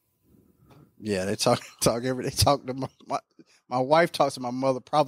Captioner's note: laughing